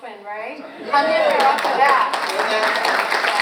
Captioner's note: audience cheers and applauds